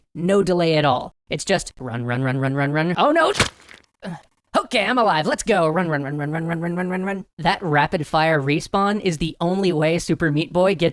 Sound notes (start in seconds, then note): 3.2 stabbing sound